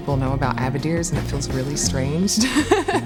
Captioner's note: laughs